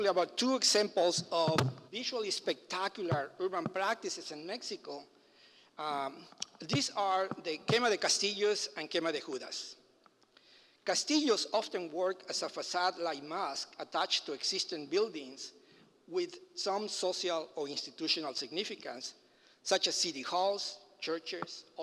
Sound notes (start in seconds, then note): 9.3 foreign language